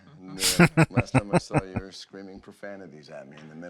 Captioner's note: laughing